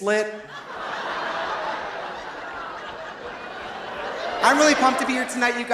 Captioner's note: audience laughing; audience groaning